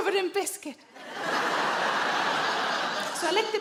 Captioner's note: audience laughing